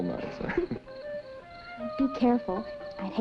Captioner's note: laughing